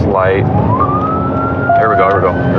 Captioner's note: sirenens